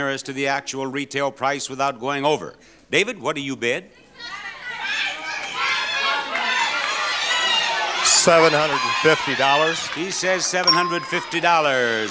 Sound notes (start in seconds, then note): 4.2 audience yelling; 10.6 bell dings